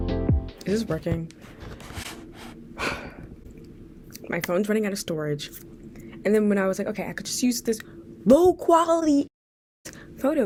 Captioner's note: sigh